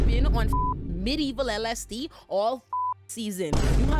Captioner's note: beep